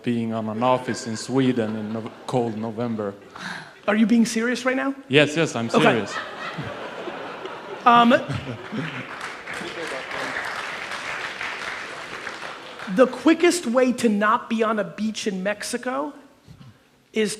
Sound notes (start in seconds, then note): 5.6 audience laughing; 9.2 audience applauds